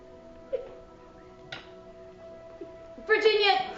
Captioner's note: Virginia sobbing